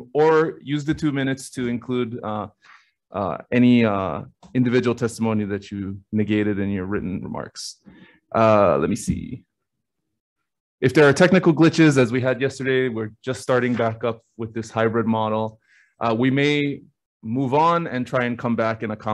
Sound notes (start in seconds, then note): none